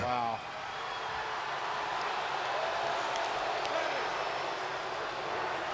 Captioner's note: crowd cheering and clapping